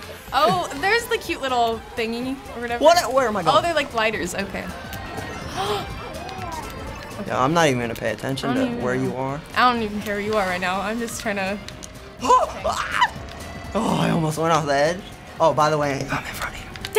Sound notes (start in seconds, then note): 5.5 gasps; 12.2 shrieks